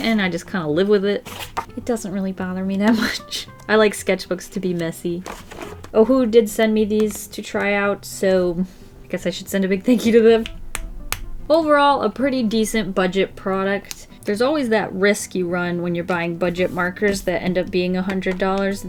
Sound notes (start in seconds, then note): 10.0 markers tapping